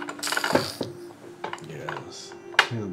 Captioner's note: clanks